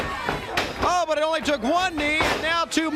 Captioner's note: crowd cheering